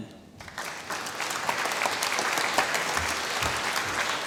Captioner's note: applause